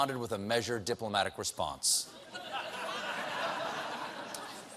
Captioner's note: laughter